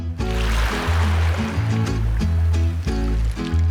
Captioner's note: upbeat music; water splashing